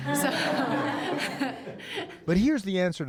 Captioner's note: laughter